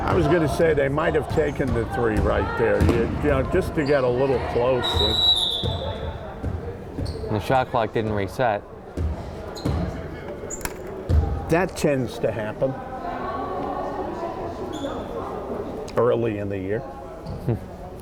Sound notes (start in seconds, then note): 4.8 whistle blowing; 9.7 crowd chattering; 13.7 crowd chattering